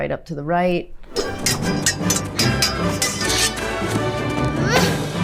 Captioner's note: swords clanging